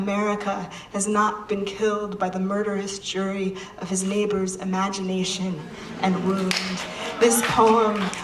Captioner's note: applause